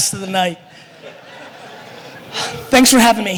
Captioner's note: laughter